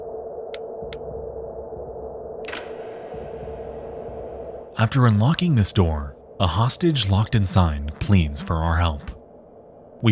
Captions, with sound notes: (lock clicks) After unlocking this door, a hostage locked inside pleads for our help.